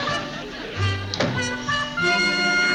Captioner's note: door closing